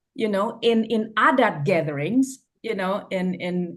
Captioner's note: foreign language